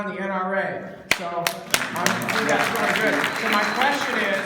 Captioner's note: clapping